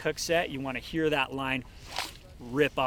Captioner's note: line ripping